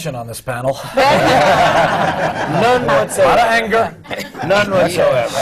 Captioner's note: laughter